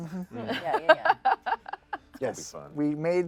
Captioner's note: laughs